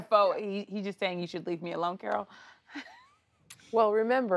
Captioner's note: laughs